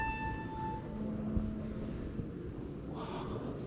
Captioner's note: people praying